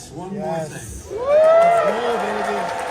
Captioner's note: applause